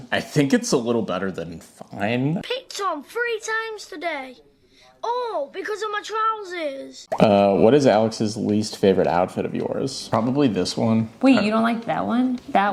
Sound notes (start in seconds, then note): none